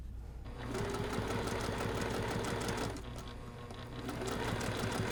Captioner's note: sewing machine churning